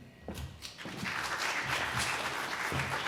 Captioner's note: applause